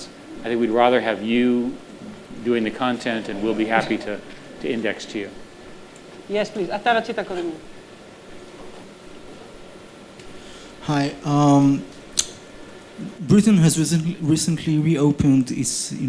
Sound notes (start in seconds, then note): 6.8 speaking hebrew